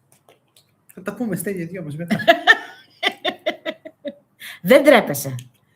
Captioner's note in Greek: γέλια